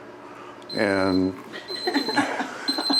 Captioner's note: beeper